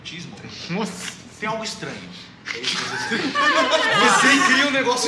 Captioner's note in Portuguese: risos